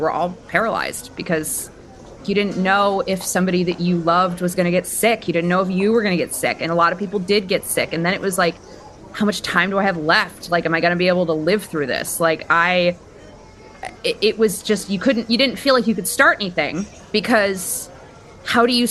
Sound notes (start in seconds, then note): none